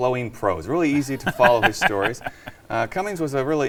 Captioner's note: laughs